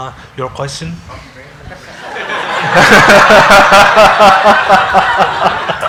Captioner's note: congregation laughing